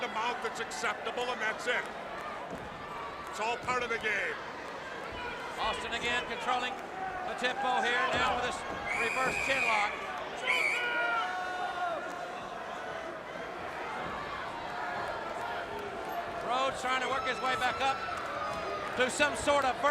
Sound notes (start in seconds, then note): 10.2 crowd chatter